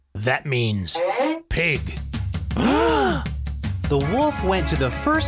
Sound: gasp

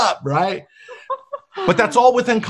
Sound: laughing

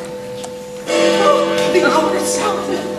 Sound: Big Ben tolls

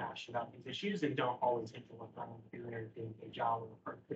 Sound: speaking faintly

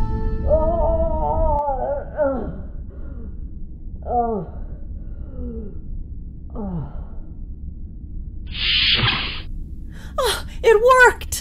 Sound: T'Ling moaning in pain

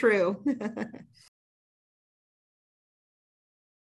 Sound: laughs

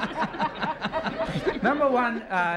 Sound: laughter

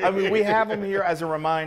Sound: laughing

